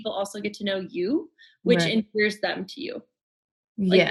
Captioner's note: murmurs